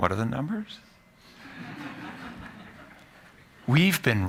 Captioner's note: laughter